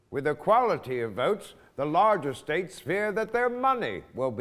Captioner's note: none